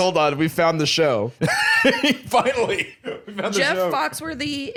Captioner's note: laughs